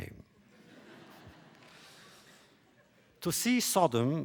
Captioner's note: laughter